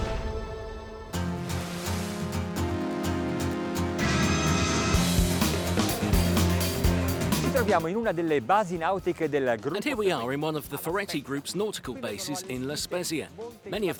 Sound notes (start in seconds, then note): 7.7 speaking in foreign language